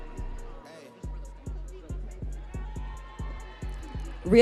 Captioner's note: audience chreeing